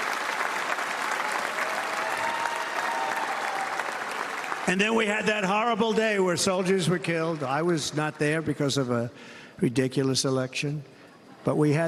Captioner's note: cheers and applause